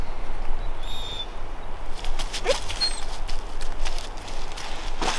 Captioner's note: Chewie whines